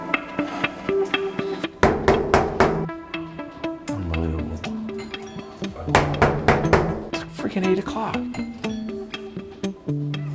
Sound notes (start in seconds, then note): 1.8 knocking; 5.9 knocking; 8.2 doorbell ringing; 10.1 upbeat music